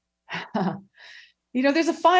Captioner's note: chuckling